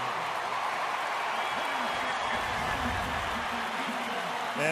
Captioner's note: cheering